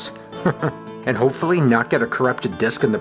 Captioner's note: chuckles